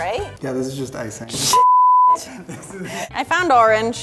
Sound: beeping

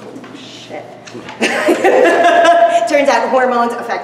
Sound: laughter

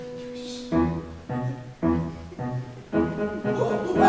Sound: Miss Todd and Laetia whisper; playful music

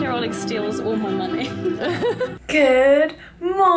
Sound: laugher

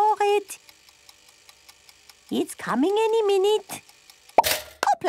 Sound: toaster ticking; pops

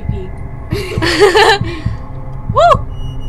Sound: both laughing

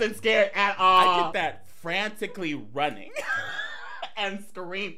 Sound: laughing

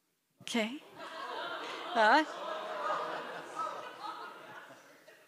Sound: chuckles

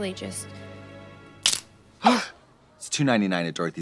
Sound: tiara snaps; Trixie gasps; students gasp

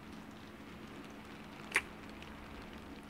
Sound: kiss

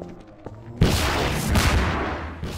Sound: APC Fires Missile

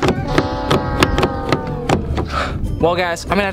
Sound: door handle rattling

